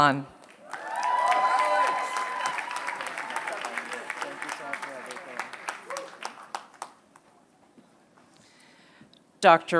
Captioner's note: applause